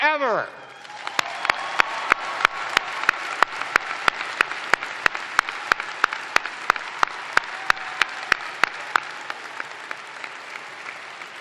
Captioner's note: cheers and applause